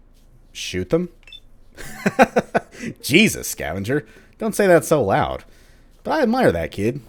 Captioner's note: he laughs